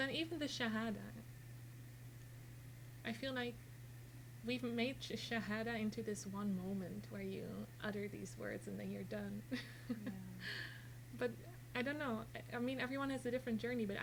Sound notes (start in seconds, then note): 9.5 chuckles